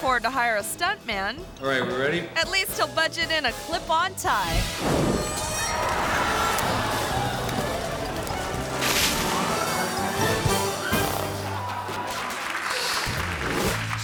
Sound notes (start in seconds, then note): 4.5 fire whooshes; 7.3 exciting music; 8.7 water splashes; 12.3 audience applauds